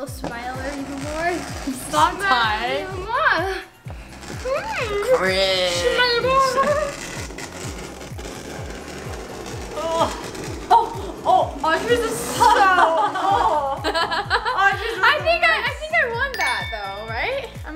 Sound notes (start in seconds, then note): 6.4 scraping; 12.3 laughing